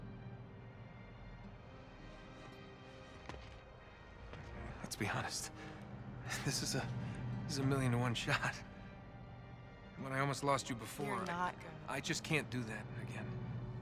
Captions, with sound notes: Let’s be honest... (laughing) ...this is a.. this is a million to one shot. And when I almost lost you before... You’re not gonna... I just can’t do that again.